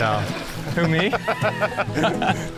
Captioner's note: laughing